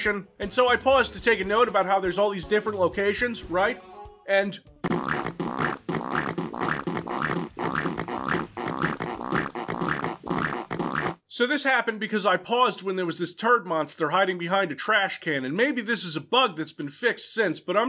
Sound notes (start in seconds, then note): 4.8 endless fart sounds